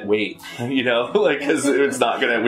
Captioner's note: laughter